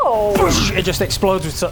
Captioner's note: boosh!